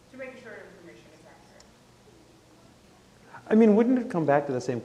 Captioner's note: speaks quietly